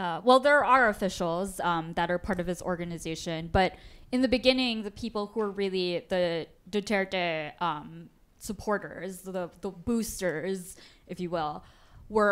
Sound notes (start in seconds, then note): none